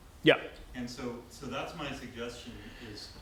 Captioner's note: voiceover